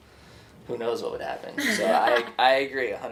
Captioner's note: laughs